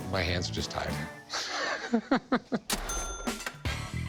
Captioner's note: laughs